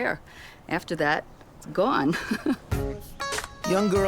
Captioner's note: lightly laughing